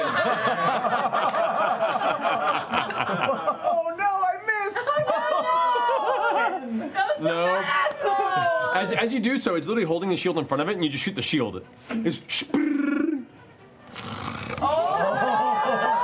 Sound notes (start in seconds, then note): 0.0 laughter; 13.8 growl